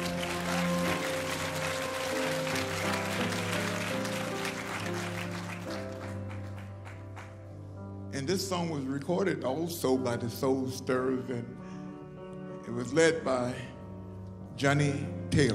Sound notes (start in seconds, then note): 3.2 applause